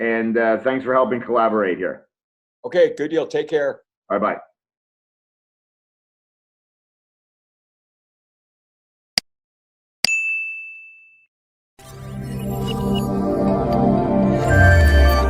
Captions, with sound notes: and thanks for helping collaborate here. - Okay, good deal. Take care. - Bye bye. (clicks) (bell rings) (jaunty music)